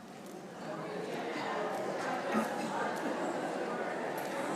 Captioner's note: congregation chatting